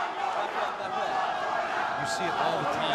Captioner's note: fans chanting